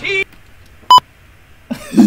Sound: beep sound; laughs

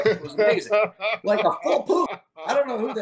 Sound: laughs

